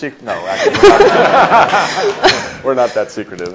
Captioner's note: audience laughs